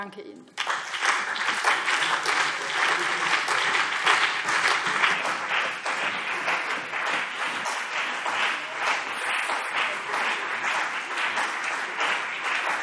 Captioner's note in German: Beifall BÜNDNIS 90/DIE GRÜNEN und CDU